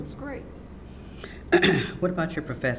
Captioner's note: clears throat